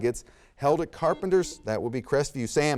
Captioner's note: buzzer sounds